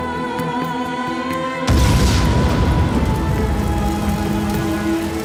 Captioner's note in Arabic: صوت انفجار